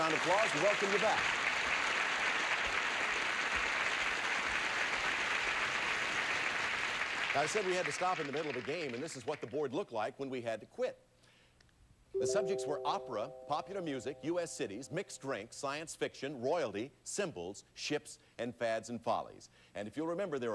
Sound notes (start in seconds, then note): 2.5 audience applauding